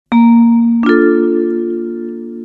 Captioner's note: chimes